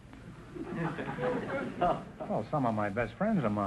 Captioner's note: audience laughter